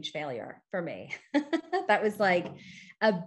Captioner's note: chuckles